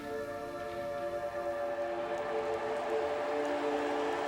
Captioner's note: crowd cheering